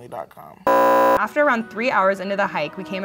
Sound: beeping

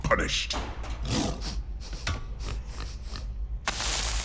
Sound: sniffing

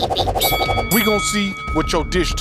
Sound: bell rings

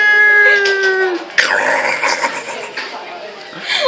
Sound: More Spider eating noises; more laughter

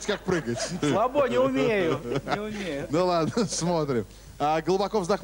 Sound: laughter

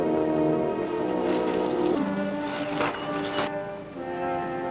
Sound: trees rustling

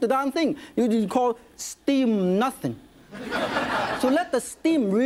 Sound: audience laughs

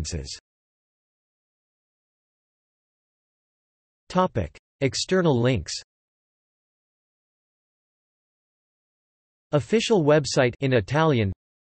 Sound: in Italian

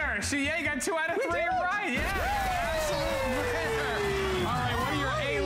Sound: cheering

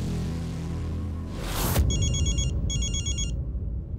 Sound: mobile phone ringing

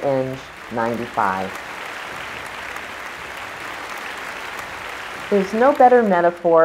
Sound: applause

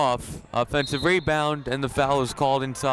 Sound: whistle blowing

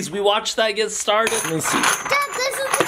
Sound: coins clanging

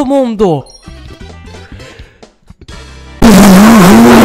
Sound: super mario 64 star sound

